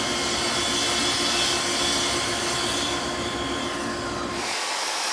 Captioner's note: driller whirring continues